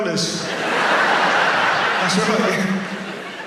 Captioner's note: audience laughs